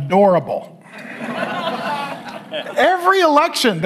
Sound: audience laughs

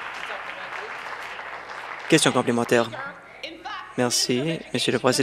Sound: applause

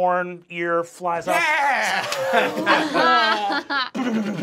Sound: laughing

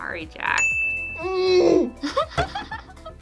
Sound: ding; groans; laughs

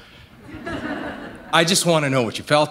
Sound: laughter

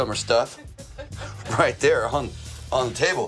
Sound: laughing

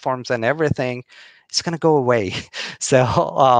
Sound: chuckling

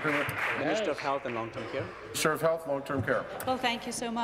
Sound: applause

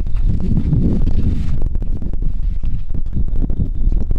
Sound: wind blows

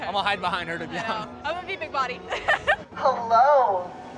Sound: laughs

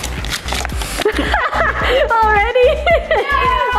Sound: laughing

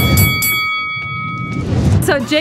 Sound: bell ringing

